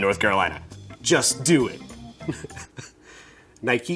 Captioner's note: chuckles